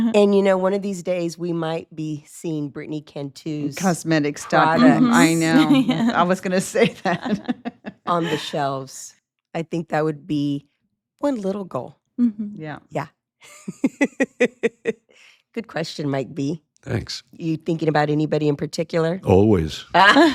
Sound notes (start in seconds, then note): 6.8 laughs; 13.6 laughs; 20.0 all laughing